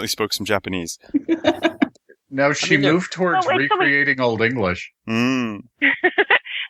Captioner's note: laughter